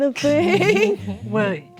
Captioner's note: laughing